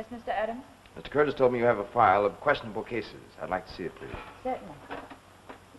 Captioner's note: none